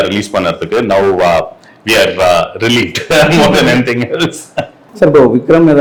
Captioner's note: chuckles